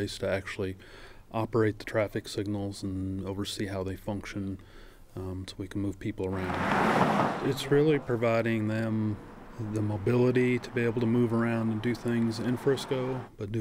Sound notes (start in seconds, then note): 6.6 sound of traffic